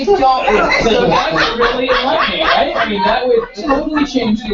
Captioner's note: laugh